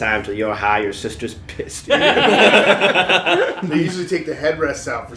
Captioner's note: laughter